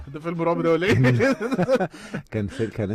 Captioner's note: laughter